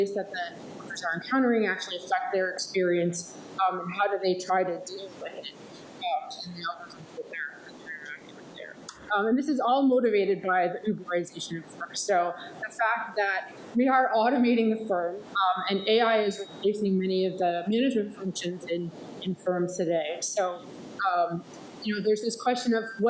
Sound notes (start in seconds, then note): 7.7 speaks faintly